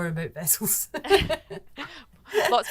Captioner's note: laughing